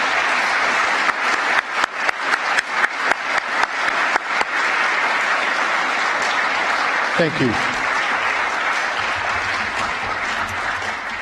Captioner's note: applause